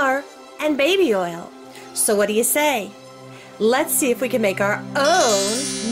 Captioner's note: magic chime